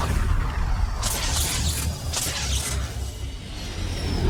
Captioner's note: electricity crackling; spacecrafts whooshing